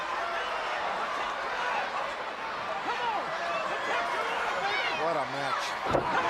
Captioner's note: crowd chatter